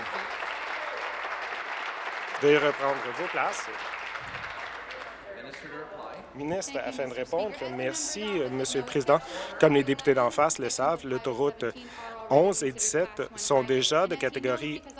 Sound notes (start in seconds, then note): 4.6 applause